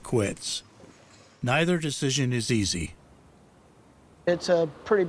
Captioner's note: auctioneering